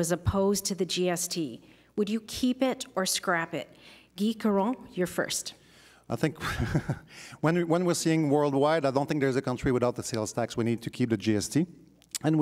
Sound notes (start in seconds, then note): 6.3 chuckles